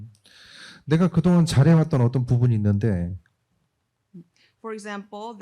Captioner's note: speaking korean